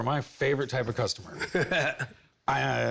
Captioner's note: laughs